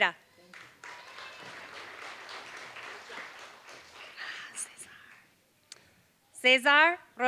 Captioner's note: applause